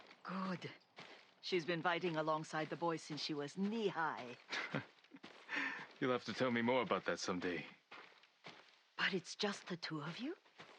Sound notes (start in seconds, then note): 4.5 laugh